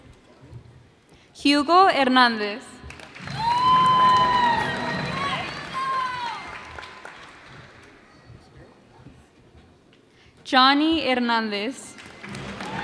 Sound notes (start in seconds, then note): 2.9 cheers and applause